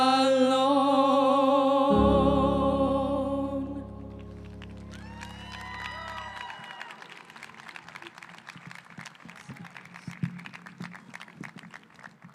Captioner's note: cheering